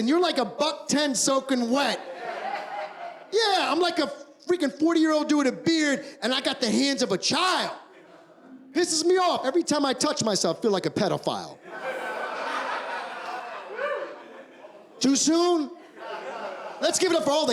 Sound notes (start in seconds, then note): 11.6 laughter